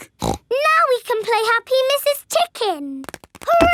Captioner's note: snorts